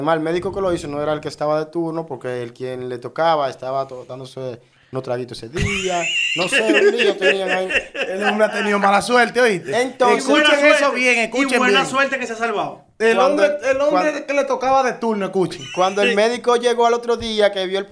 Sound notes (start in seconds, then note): 5.5 laughs